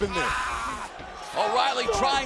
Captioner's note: wrestler screaming